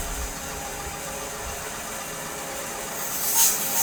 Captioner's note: none